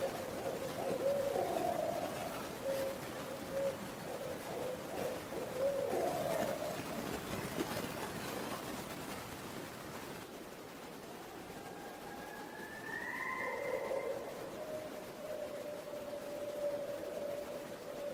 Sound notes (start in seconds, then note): 3.1 owls calling; 3.1 white noise crackling; 11.8 owls calling; 13.0 white noise crackling